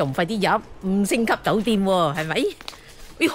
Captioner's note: Cantonese